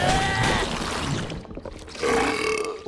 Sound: groaning; belching

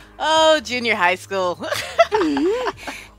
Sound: laughter; sigh

